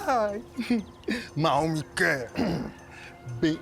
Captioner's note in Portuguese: grunhe